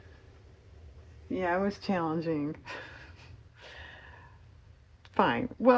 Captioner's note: laughs